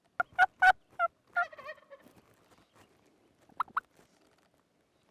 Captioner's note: turkey calling